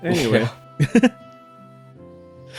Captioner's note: titters